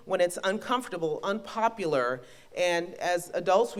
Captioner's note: none